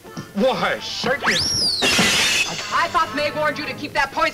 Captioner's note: glass shatters